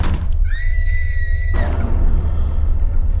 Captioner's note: screaming